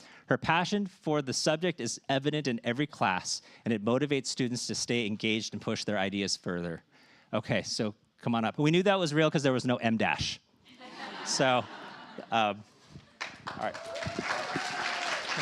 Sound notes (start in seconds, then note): 10.7 laughter